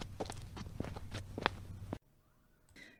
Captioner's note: footsteps